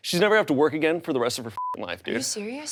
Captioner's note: beep